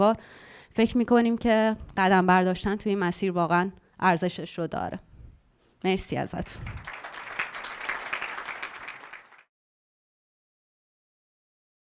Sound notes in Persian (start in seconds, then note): 6.4 تشویق